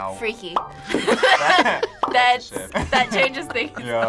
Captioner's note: group laughs